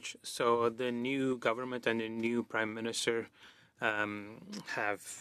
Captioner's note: speaking French